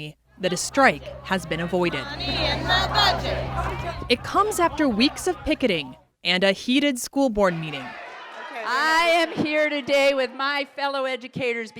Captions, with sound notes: that a strike has been avoided. (crowd chanting) It comes after weeks of picketing and a heated School Board meeting. "I am here today with my fellow educators